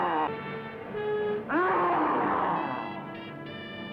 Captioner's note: mummy growls